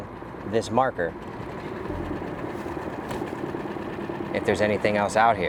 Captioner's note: motor droning; gentle music continues